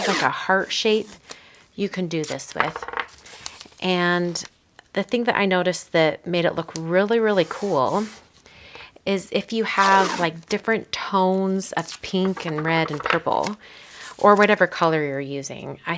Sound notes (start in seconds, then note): 0.0 tape ripping; 2.2 tape roll rattling; 7.3 hand rubbing tape; 11.9 tape roll rattling